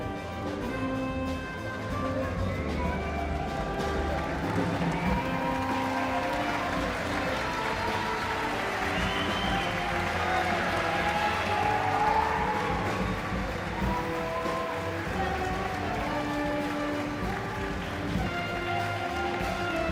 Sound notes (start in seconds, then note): 6.3 audience cheers